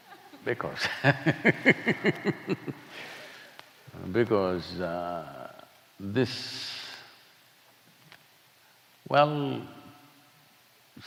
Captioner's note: laughter; laughs